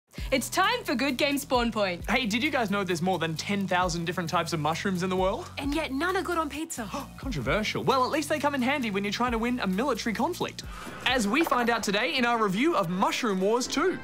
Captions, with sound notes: It's time for Good Game Spawn Point. Hey, did you guys know there's more than 10,000 different types of mushrooms in the world? And yet none are good on pizza. (GASPS) Controversial. Well, at least they come in handy when you're trying to win a military conflict - as we find out today in our review of Mushroom Wars 2.